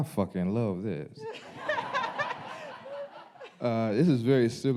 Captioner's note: audience laughing